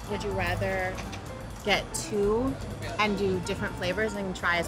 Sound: none

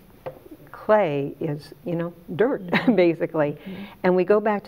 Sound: chuckles

